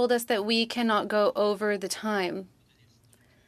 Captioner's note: speaking French